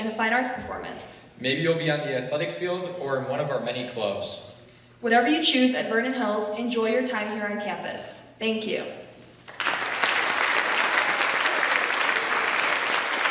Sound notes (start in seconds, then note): 9.4 audience applauds